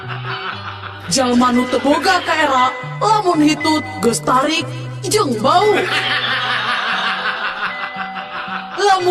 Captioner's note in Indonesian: tertawa; tertawa